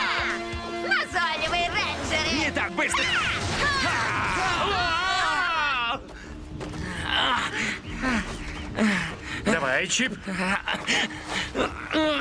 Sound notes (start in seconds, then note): 5.4 breathing heavily